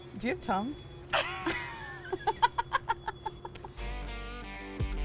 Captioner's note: both laughing; upbeat country music